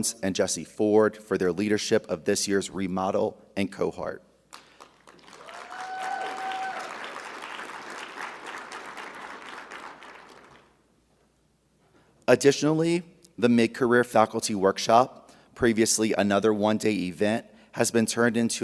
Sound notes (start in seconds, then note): 4.5 audience applauding; 5.0 audience cheering